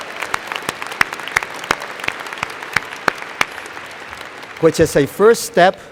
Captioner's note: applause